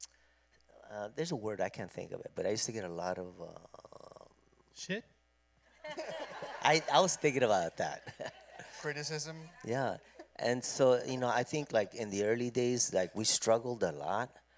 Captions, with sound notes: There's a word, I can't think of it, but I used to get a lot of-- Shit? [laughter] I was thinking about that. [chuckles] -Criticism. -Yes. I think, in the early days, we struggled a lot.